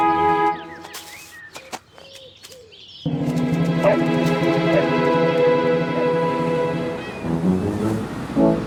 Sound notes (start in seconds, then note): 3.8 Radar Barks